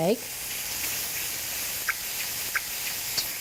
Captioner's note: sizzling